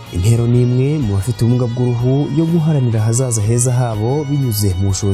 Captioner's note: speaking in Kinyarwanda